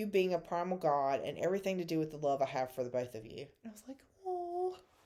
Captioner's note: awww